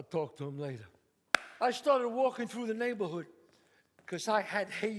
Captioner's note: claps